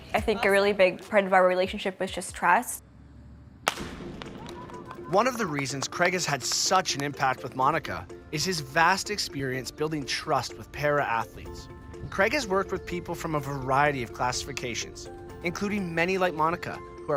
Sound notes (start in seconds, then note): 3.6 gunshot